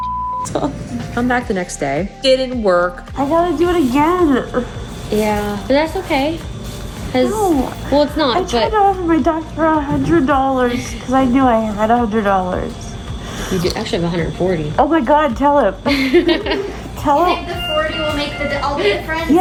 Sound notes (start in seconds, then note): 15.8 laughing